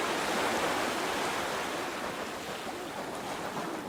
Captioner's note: waves lap